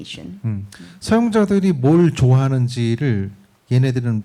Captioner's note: speaking korean